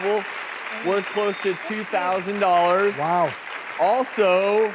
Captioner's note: applause